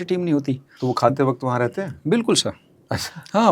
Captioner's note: nasal sound